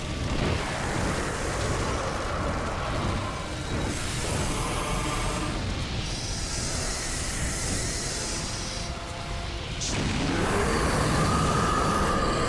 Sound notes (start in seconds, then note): 9.9 roaring